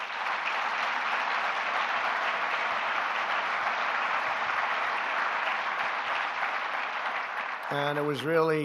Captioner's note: applause